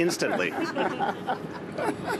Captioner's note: laughter